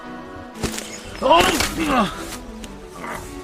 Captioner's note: grunting